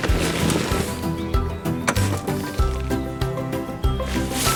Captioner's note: コンポストを注ぐ音